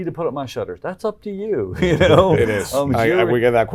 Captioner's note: laughs